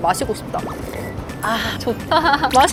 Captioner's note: slurp